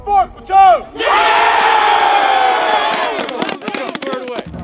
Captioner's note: trainees cheering